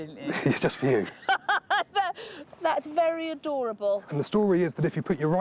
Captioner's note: laughs